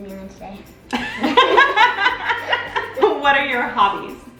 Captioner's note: both laughs